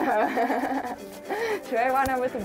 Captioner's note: laughing